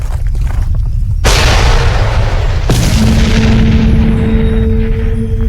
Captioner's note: rocks clattering; ground crashing